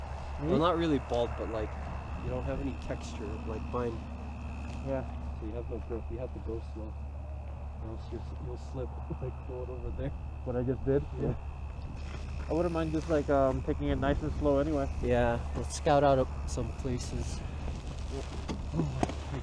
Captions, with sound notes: "Me?" "Well, not really bald but like" "You don't have any texture, like mine" "Yeah" "So you have no grip, you have to go slow" "Or else you'll slip, like the one over there" *laughs* "What I just did?" *chuckles* "Yeah" "I wouldn't mind just like, um, taking it like nice and slow anyway" "Yeah, let's scout out some places"